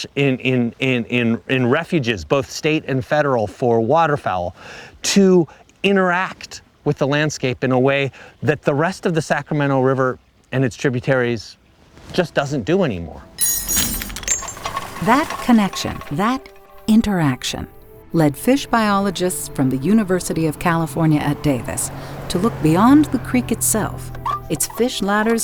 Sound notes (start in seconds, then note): 14.3 chain link clanks; 14.3 roar of pick up truck